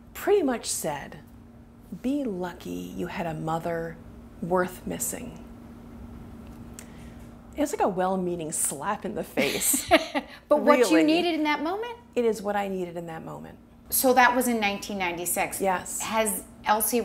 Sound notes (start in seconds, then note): 11.5 laughs